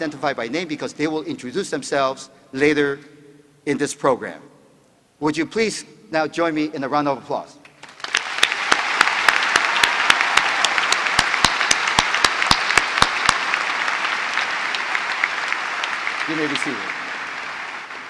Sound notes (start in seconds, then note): 10.0 applause